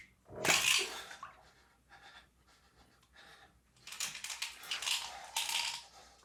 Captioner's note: cap pops; pills rattling